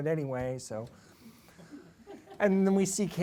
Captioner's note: laughter